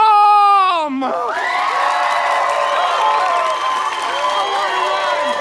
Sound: audience cheers

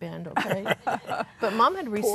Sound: laughing; laughs

